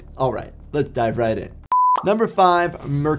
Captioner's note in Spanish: pitido gráfico